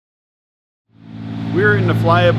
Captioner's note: engine buzzing